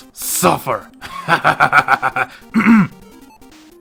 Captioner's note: villanous laughter